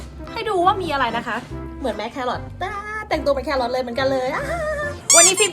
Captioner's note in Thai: หัวเราะ